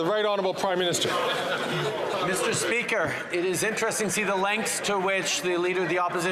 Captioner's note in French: voix de l'interprète